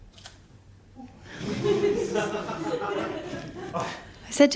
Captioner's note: laughter